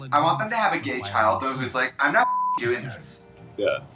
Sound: beep

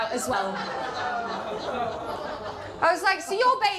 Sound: audience groans

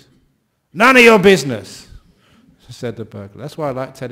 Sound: yelling

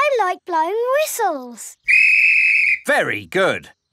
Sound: blows whistle

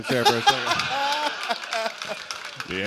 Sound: laughter

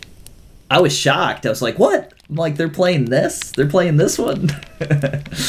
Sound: laughs

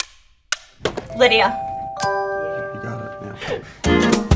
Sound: upbeat music; clock ticking; bell dinging

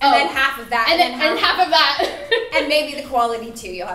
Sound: laughing

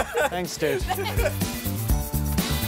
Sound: laughing; upbeat rock music

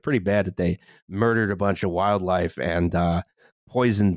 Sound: none

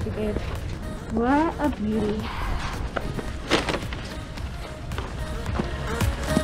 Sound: footsteps crunching

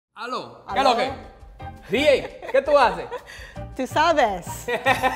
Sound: speaking in foreign language

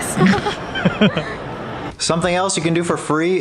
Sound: both laughing

